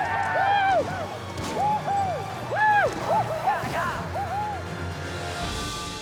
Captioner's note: yelling, gunfire